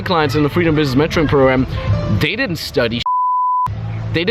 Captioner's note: beep